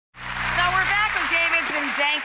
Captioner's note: crowd applauds